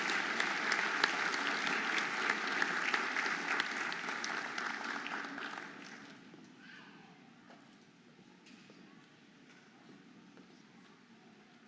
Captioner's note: audience applauding and cheering